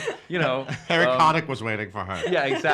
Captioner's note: laughing